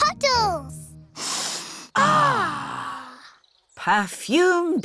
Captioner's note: all sniff